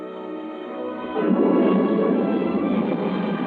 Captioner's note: spaceship roaring